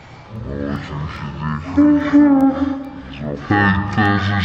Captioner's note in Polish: odgłos płaczącego dziecka